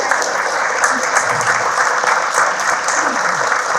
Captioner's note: people clapping